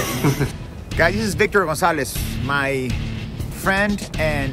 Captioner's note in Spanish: hablando inglés